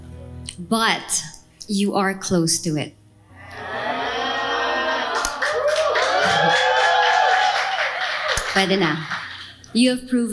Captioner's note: cheers; laughs